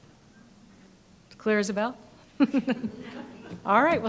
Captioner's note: audience laughing; laughs